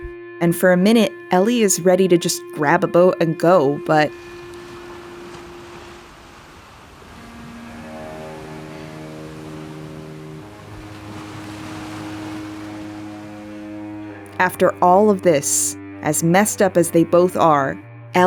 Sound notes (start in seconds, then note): 4.3 the sound of ocean waves